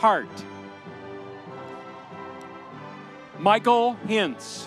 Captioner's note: audience cheering